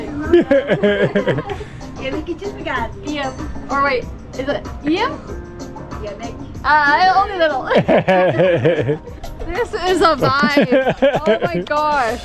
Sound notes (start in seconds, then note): 0.1 laughs; 2.0 foreign language; 6.1 foreign language; 7.6 laughs